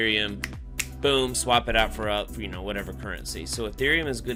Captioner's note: fingers snap